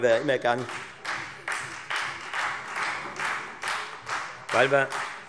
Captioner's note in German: Beifall Freie Demokraten